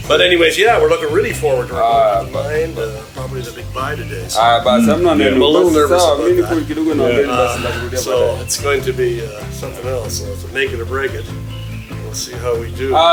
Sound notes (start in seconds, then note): 1.7 talks in background; 6.0 talks on phone